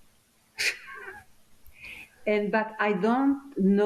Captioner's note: laughing